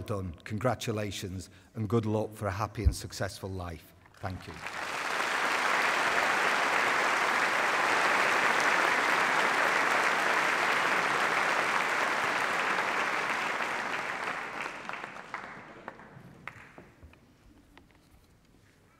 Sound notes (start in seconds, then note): 4.1 applause